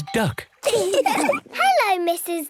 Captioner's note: all laugh